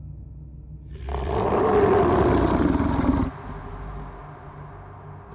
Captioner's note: werewolf growling